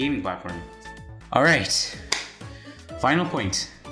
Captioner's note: clap